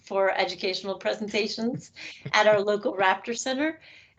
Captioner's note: chuckling